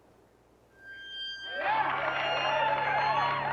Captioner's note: cheers and applause